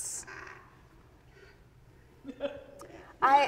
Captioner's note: audience member laughs